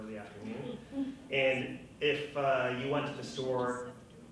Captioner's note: woman whispering